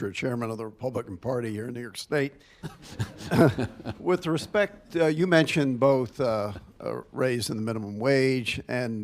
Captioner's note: laughter